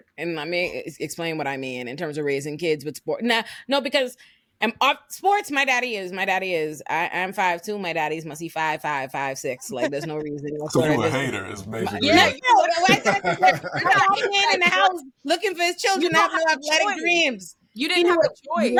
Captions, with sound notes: And let me explain what I mean in terms of raising kids with sports. No, because I'm sports, my daddy is, my daddy is, I'm five two, my daddy's must be five, five, five, six. (laughing) So you were a hater is amazing. Yeah, you were a hater. (laughing) You're not in the house looking for his children. You didn't have a choice. You didn't have a choice.